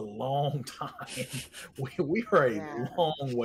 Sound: laughs

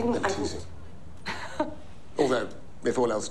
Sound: laughs

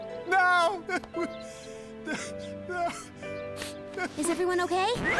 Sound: cries

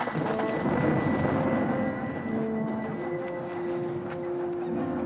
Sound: thunder Rumbling

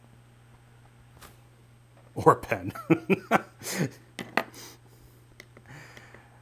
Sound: laughing

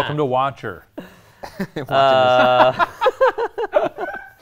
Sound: all laughs

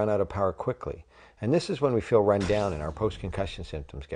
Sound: sound effect

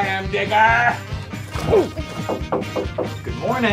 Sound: knock knock knock

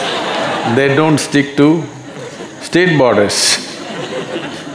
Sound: laughter

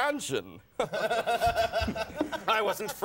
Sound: laughing

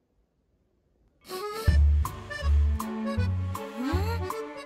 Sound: sniff sniff

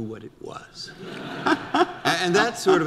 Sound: audience laughter

